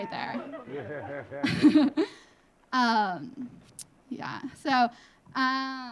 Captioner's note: laughing; audience laughing